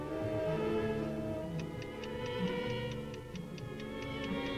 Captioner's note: ticking